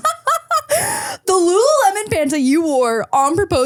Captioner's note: person laughing